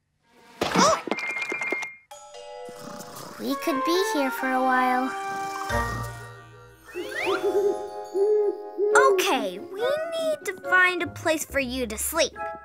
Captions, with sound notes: Ooh! (Snap Pea snoring) - We could be here for a while. (owl hooting) - Okay, we need to find a place for you to sleep.